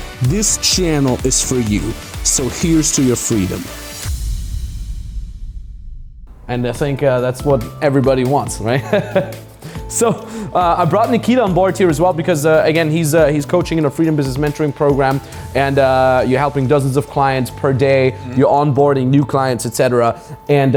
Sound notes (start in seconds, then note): 4.2 drumbeat; 8.8 laughs